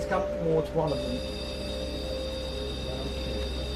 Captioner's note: buzzing sound is heard from the REM pod